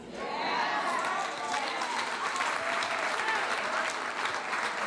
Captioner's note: audience cheering